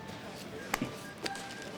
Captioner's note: chuckles